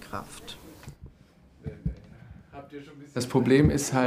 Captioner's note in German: Entfernte Stimme